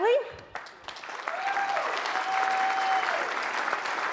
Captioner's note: audience applauds